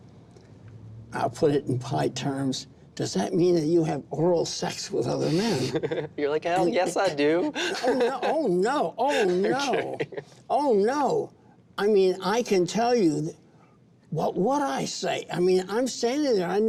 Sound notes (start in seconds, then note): 5.2 chuckles; 6.5 laughing